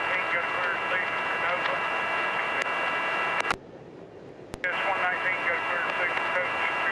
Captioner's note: plane engine roaring; plane engine roaring